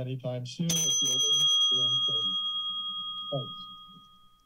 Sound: alarm sound

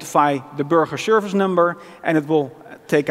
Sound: non-english

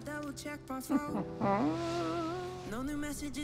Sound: chuckles

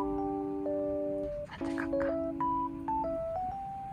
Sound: whispering

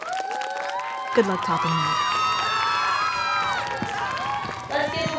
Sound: cheering continues

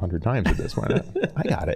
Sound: laughing

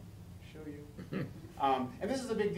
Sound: laughing

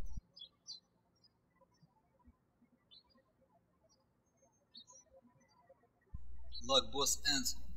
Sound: birds chirping

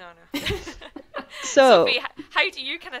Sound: laugh

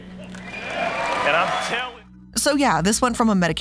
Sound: audience cheering

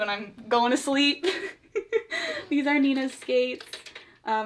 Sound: laughs

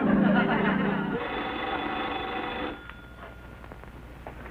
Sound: phone ringing

